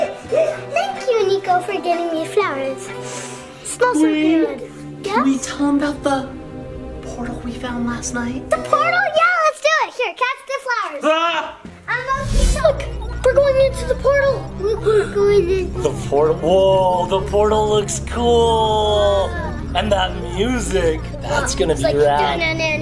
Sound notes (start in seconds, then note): 11.2 exclaims